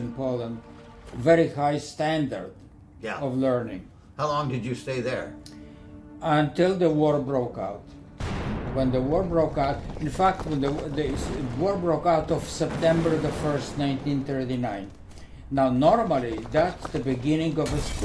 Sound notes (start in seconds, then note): 8.0 explosion